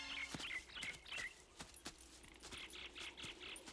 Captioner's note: birds chirping